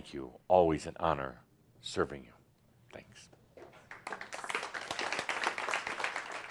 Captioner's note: audience applause